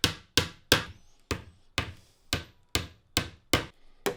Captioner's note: hammer banging